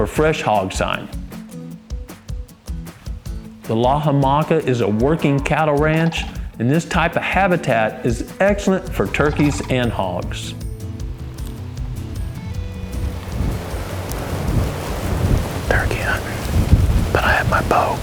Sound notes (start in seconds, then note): 12.4 whispering